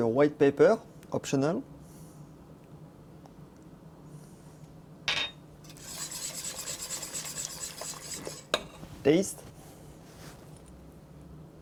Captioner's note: whisking sounds